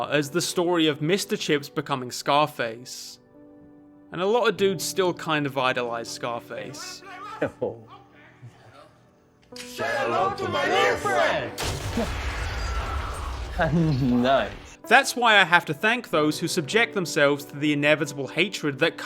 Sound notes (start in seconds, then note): 7.3 tv playing in background; 11.6 gunfire